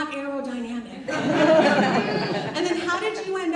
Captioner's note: audience laughs